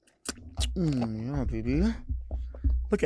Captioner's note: moans